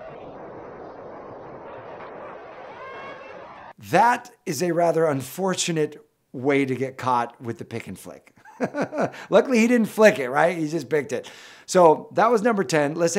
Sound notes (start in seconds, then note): 8.4 laughs